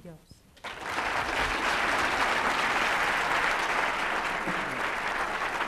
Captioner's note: applause